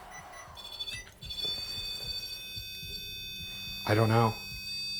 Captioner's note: continuous beeping